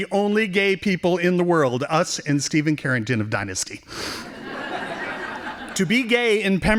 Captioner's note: laughing